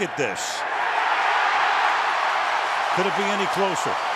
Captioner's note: cheering